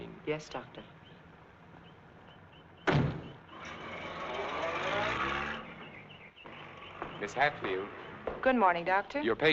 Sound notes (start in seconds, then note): 2.8 door thumping; 4.0 vehicle droning